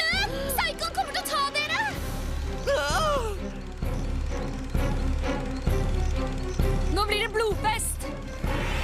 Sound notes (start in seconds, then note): 2.5 gasps